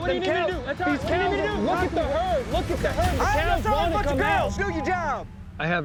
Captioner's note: all arguing